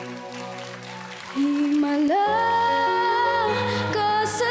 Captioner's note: audience applauding